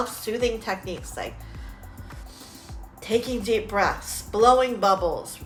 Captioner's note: breathing deeply